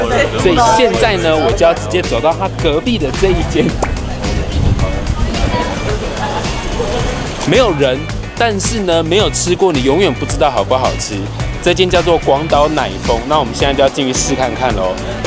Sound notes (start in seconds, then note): 4.7 couldn’t hold to laugh